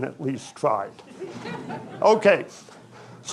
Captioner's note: audience chuckling